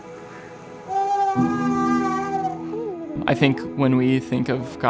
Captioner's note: baby crying